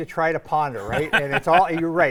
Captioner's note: laughing